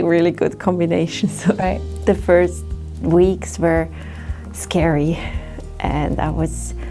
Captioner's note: laughs